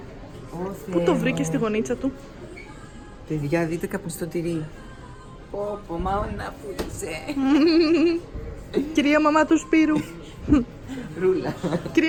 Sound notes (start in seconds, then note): 7.3 giggles